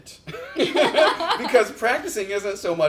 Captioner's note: laugh